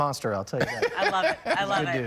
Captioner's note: laughter